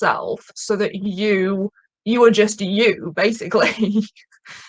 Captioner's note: chuckling